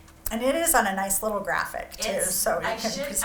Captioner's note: laughs